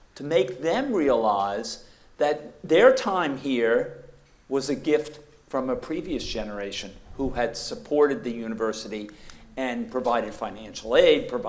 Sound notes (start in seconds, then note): none